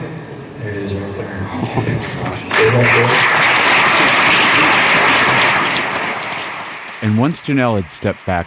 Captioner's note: applause